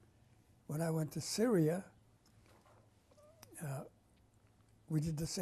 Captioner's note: pauses for 3 seconds